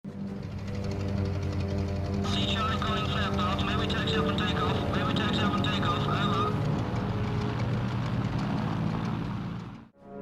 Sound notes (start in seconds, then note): 2.9 radio chatter